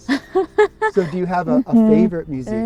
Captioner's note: chuckling